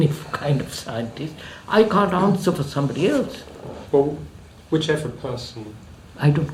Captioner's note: laughs